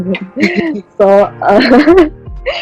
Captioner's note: laughs